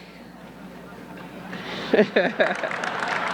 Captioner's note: audience laughing; laughs; audience clapping